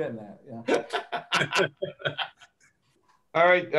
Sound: laughter

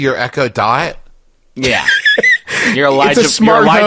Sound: wheeze-laughes

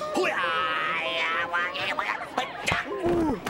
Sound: duck talking gibberish

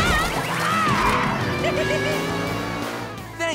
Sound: laughing

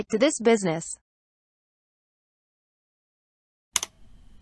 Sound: click sound

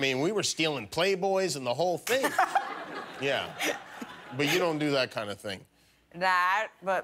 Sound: laughter

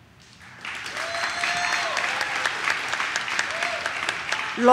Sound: audience claps

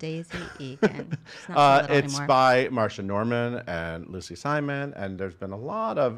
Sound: laughs

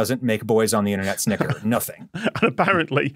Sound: snickers

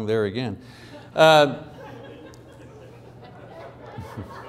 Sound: laughing

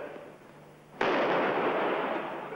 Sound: explosion sound

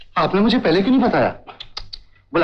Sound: clicks tongue

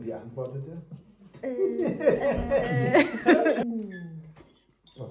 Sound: laughing

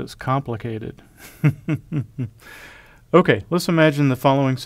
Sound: laugh

